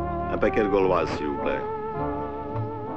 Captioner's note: French spoken audio